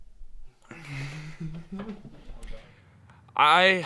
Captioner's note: laughs